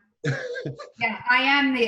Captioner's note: laughing